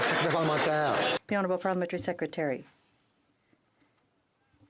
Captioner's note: some Applause